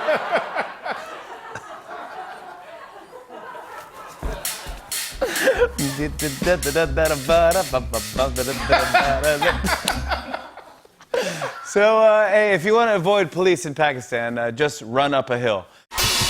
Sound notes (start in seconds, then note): 0.0 laughter; 6.1 imitating conga music